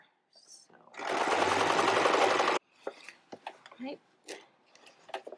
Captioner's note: sewing machine tapping